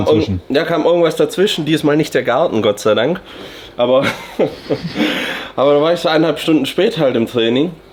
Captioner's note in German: gelächter